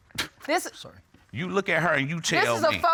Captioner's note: scoffs